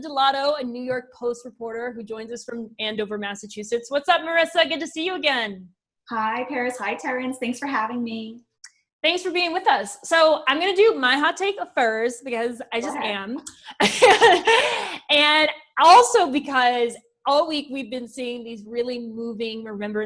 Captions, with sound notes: a New York Post reporter who joins us from Andover, Massachusetts. What's up, Marisa? Good to see you again. Hi, Paris, hi, Terrence. Thanks for having me. Thanks for being with us. So, I'm gonna do my hot take first, -because I just am. -Go ahead. (laughs) And also because all week, we've been seeing these really moving remembrances